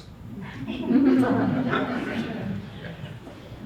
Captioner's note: audience laughs